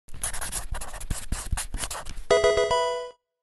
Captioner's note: pencil writing; Pokemon game sound